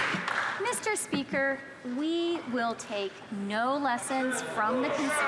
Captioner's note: some Applause